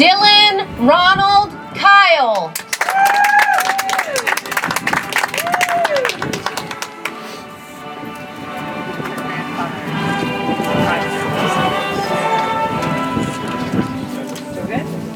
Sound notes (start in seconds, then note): 2.5 audience applauds; 7.4 soft music